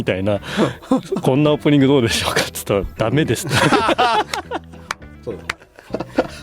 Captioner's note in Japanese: 笑い